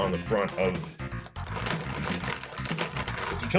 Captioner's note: more crinkle ASMR